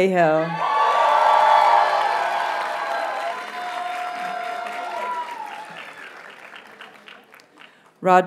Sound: audience cheers and applauds

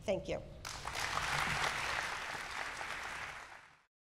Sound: audience clapping

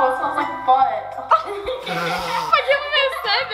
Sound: laughing

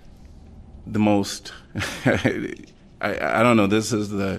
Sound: laughter

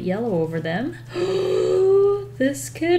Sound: gasps

